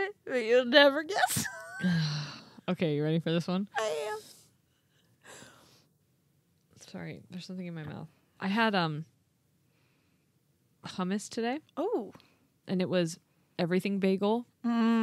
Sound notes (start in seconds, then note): 1.7 sighs